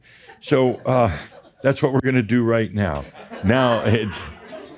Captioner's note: a few giggles; more chuckles